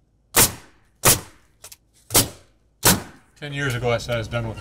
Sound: nail gun bangs

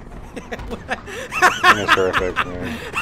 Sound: laughing

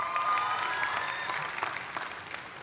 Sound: cheers and applause

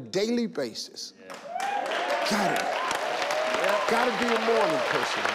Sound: audience cheer

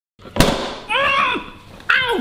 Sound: banging; yelling

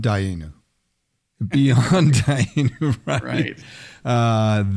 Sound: laughs

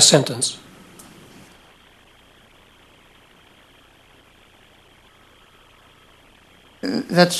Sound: no speaking

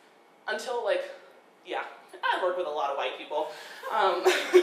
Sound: laughing

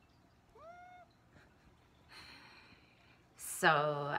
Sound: Loshe meows

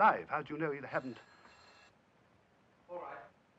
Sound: phone ringing

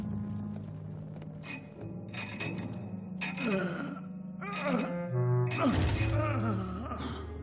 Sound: chains clinking, man groaning

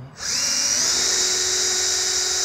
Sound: drilling

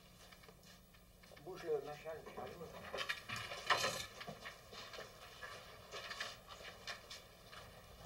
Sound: speaking french

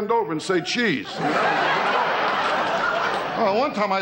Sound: audience lauging

